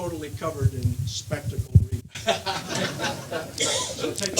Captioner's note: audience laughing